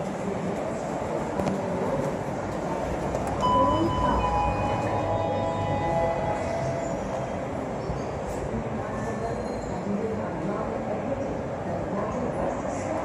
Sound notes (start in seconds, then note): 3.4 chime